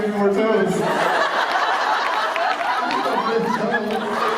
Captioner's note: laughter